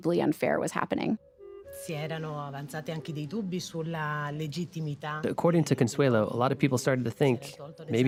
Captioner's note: speaks in Italian